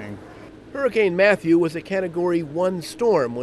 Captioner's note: voiceover